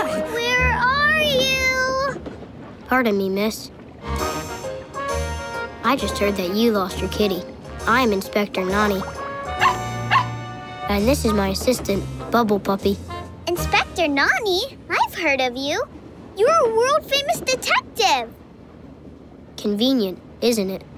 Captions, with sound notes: Where are you? Pardon me, Miss. I just heard that you lost your kitty. I'm Inspector Nonny. [barking] And this is my assistant, Bubble Puppy. Inspector Nonny? I've heard of you. You're a world famous detective. Convenient, isn't it?